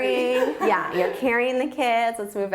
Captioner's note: laughs